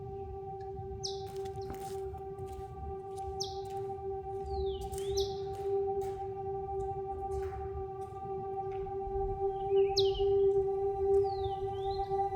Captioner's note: footsteps